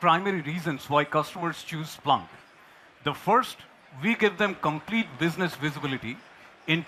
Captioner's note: applause